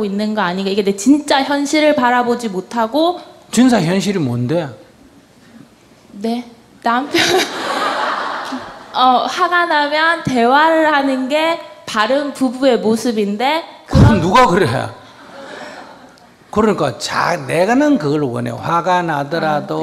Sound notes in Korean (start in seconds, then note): 7.0 청중 / 질문자 웃음; 13.1 스님 웃음; 15.2 청중 웃음